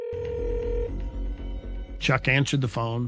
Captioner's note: calling tone ringing